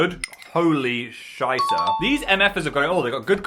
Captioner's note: upbeat electronic ding